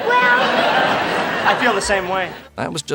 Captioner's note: laughter